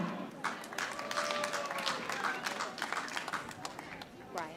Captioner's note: audience applauding